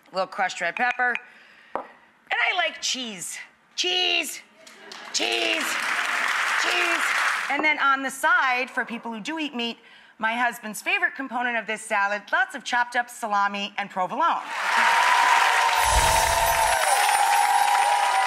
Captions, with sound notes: a little crushed red pepper, and I like cheese, cheese, cheese, cheese. And then on the side for people who do eat meat my husband's favorite component of this salad lots of chopped up salami and provolone. (audience applause)